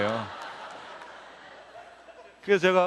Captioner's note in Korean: 웃음